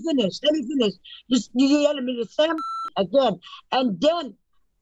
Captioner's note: beep